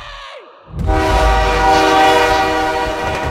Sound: train horn blaring

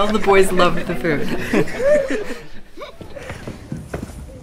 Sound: laughing

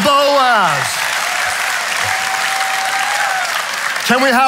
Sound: audience applauding

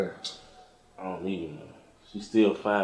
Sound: scoffs

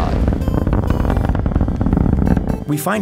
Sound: rocket flying

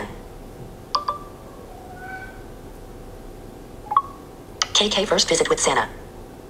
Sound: phone beeping

